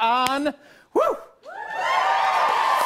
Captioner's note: cheers and applause